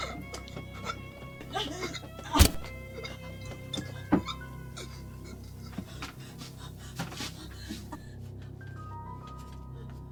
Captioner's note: Gerry's labored breathing